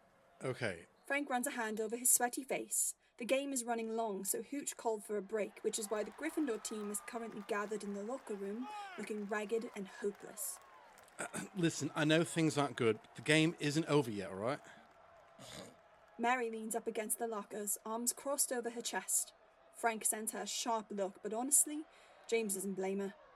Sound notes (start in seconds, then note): 15.4 Mary snorts